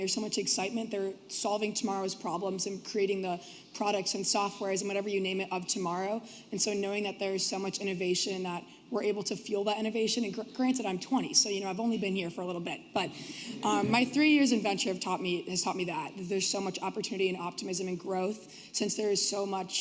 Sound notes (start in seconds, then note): 12.7 laughter